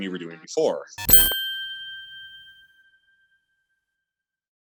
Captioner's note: chiming sound